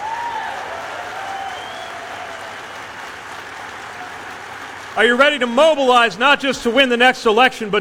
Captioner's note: cheers/applause